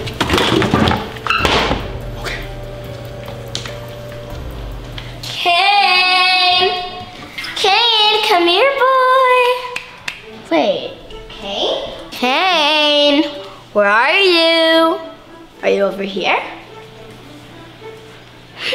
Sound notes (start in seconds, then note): 1.4 cabinet thudding; 1.4 cabinet thuds; 9.4 clapping